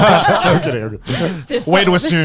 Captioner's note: laughing